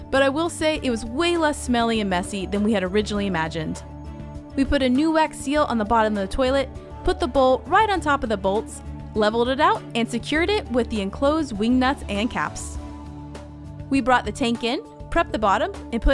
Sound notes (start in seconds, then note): none